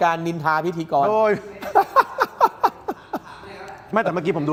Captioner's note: laughter